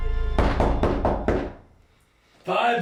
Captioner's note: door knocks